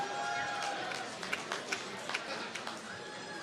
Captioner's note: applause